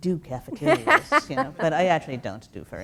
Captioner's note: laugh